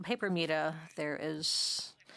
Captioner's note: speaking French